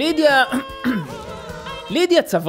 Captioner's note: clears throat